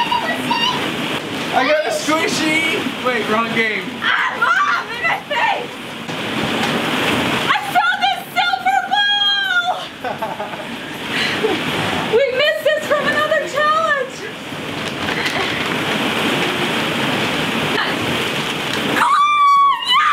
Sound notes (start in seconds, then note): 0.1 yelling; 9.8 laughing; 15.9 balls rolling